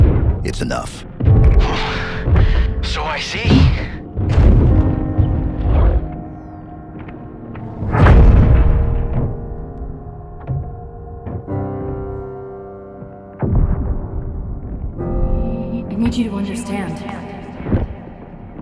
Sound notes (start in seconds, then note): 13.4 loud booms